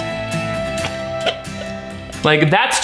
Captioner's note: upbeat instrumental music; lips smacking